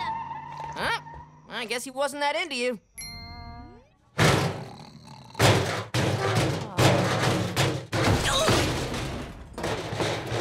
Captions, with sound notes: Well, I guess he wasn't that into you. [grunting]